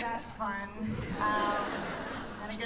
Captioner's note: laughter